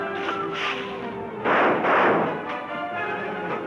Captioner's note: guns firing; guns firing